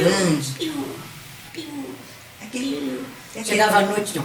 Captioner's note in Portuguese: Imitando pássaros